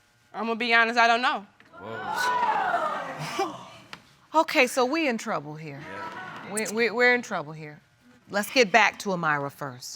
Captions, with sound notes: I'ma be honest. I don't know. (ALL EXCLAIM) Okay, so we in trouble here. We're in trouble here. Let's get back to A'myriah first.